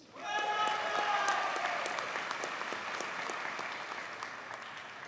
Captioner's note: audience cheers and applauds